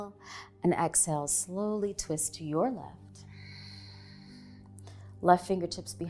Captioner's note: exhaling